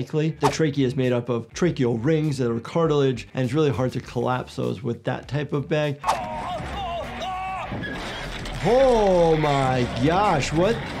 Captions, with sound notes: The trache is made up of tracheal rings that are cartilage and it's really hard to collapse those with that type of bag. (victim screams) Oh my gosh, what?